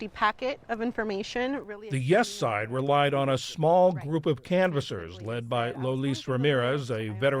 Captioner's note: voice-over